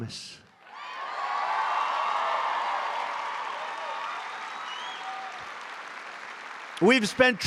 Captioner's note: applause